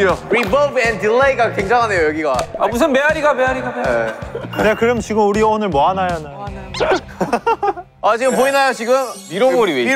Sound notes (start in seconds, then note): 6.7 laughing